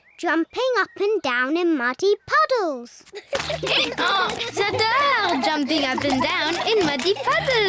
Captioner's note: brays